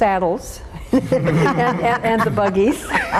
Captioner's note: all laughing